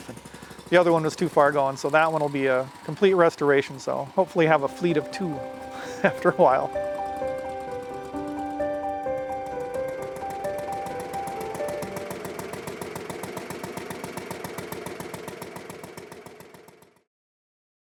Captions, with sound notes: And the other one was too far going so that one will be a complete restoration. So hopefully have a fleet of two after a while. (upbeat music) (car engine revving)